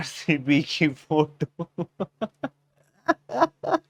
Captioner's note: laughing